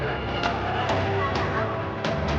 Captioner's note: cheers